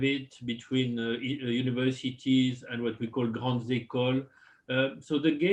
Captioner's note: french